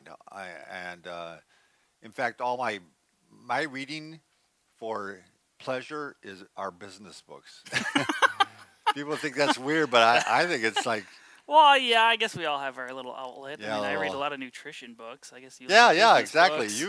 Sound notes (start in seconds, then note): 8.8 laughs